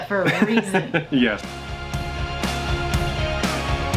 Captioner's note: laughing; upbeat music